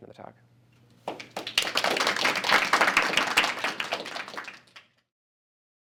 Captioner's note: applause